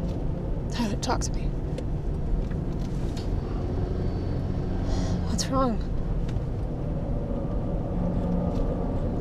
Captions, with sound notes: Tyler, talk to me. (engine revving) (tense music) What's wrong? (tense music)